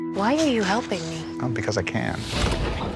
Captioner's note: objects clanking